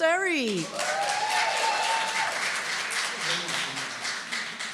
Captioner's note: applause and cheering